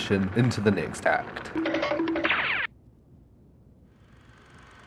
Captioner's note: cartoon running sounds